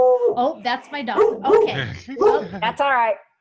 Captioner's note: dog howling; dog barking